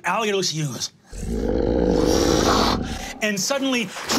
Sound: growling

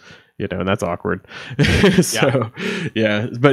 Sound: laughing

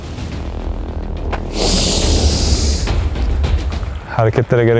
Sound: inhaling

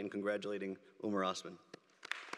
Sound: applause

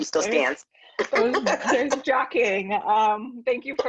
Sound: laughing

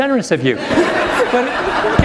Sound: laughter

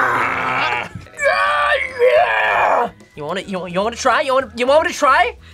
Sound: groans loudly; laughs

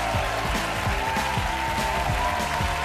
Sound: audience applause and cheers

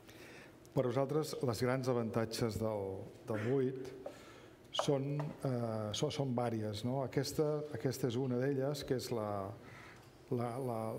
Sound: speaking catalan

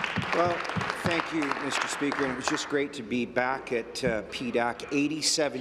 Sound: applause

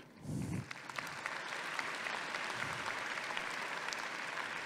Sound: audience applauding

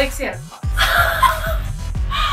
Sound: laughs

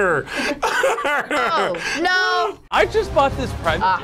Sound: laughs

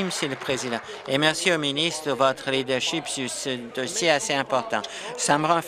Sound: applause

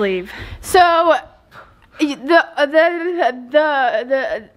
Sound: stammering

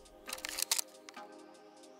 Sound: upbeat music; shutter clicking

